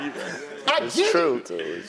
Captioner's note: laugh